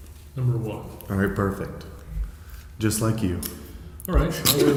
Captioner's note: laughs